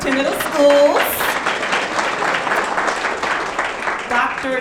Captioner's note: audience clapping